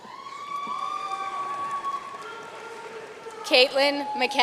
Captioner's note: audience cheering and applauding